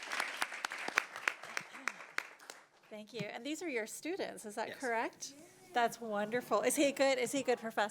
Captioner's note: applause